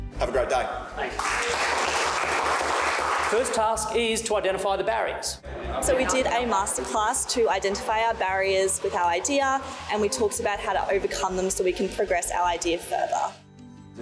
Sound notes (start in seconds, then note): 1.0 people applauding